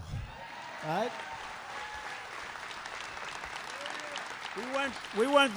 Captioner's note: applause